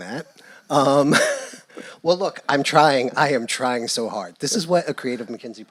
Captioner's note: laugh